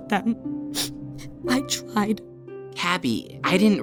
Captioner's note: sniffles